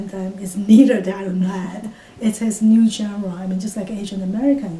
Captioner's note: laughs